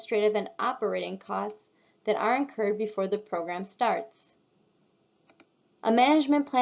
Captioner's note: click